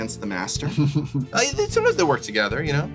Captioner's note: laughs